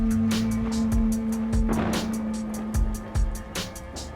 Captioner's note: thunder cracks